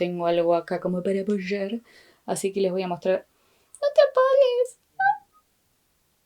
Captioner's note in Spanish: chillido de hamster